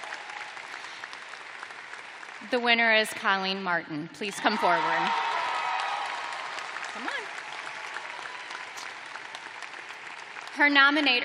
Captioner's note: cheers and applause